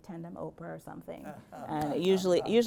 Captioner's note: laughs